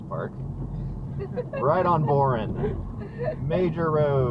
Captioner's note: passengers laugh